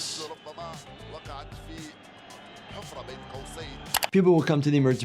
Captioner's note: commentator talks in foreign language